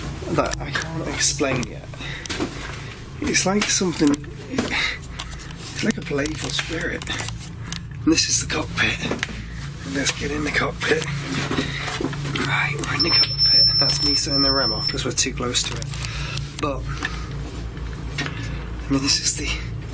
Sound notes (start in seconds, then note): 12.9 REM Pod beeping